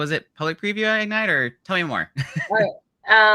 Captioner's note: laughing